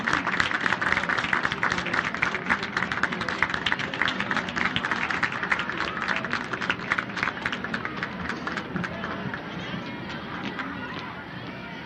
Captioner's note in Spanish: aplausos